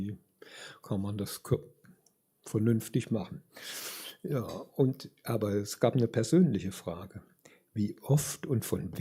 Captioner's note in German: schnauben